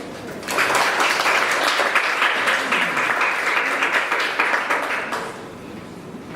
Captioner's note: applause